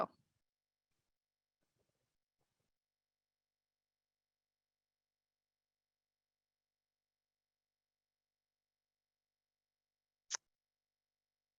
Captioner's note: silencio